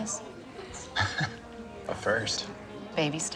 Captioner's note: chuckles